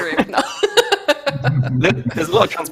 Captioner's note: laughter